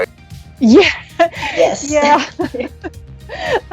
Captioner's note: laughter